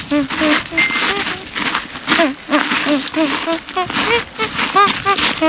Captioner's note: still in good spirits, humming a tune